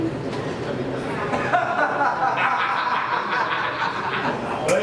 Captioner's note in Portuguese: Risadas